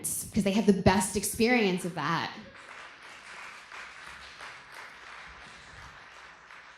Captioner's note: applause